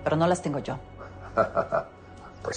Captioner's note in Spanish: Risas